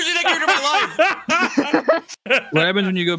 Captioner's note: laugh